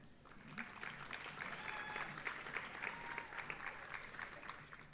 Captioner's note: audience applauding